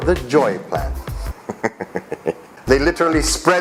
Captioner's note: chuckles